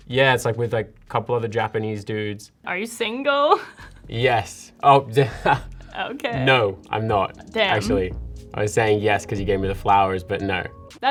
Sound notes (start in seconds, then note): 5.2 laughs